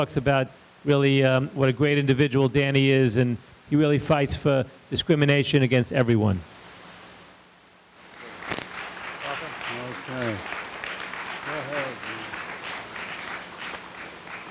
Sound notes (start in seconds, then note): 8.1 audience applauding